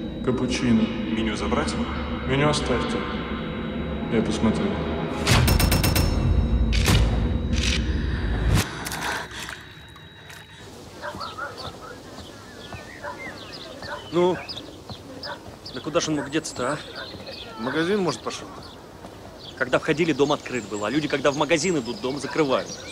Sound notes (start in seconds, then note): 7.5 breathing heavily